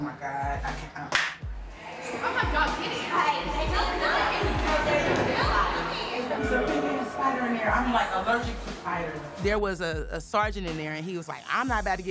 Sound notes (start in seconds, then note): 5.5 inmate chattering